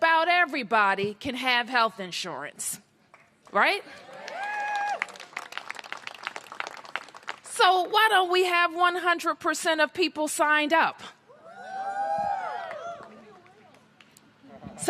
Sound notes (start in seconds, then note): 3.9 cheers and applause